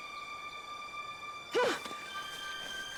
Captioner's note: Riley grunts